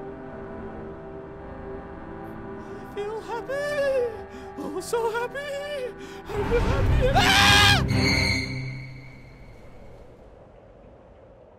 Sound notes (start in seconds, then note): 3.6 whimpering; 6.4 scream